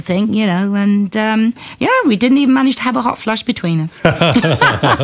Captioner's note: laughter